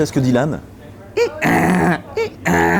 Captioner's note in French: Bruitage d'âne